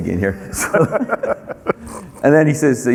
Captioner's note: laughing